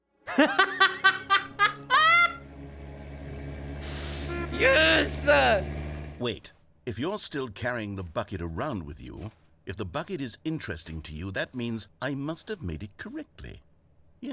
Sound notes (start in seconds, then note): 3.4 car driving